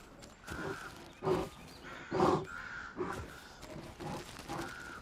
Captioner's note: bear huffs